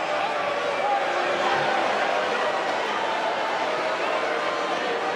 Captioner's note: crowd boos